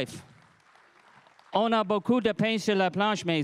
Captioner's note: crowd applauding